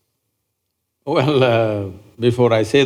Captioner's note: laughs